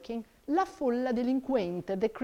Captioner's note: speaks in foreign language